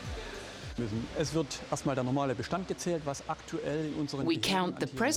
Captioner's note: speaking foreign language